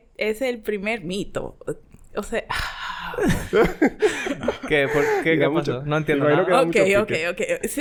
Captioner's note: whisper; laughs